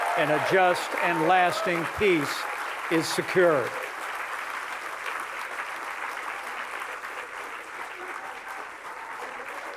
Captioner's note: applause